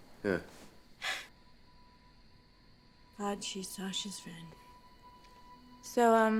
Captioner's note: scoffs